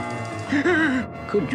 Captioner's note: Adam West Gasps